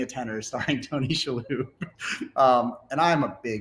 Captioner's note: laughs